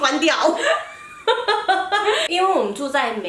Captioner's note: laughter